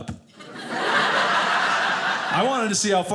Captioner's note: audience laughing